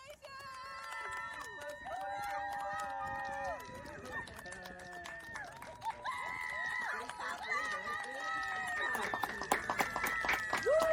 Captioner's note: clapping and cheering